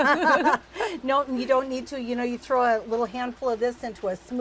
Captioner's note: ladies laughing